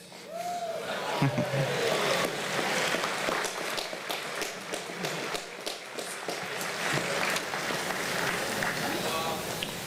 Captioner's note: applause